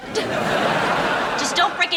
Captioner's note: audience laughing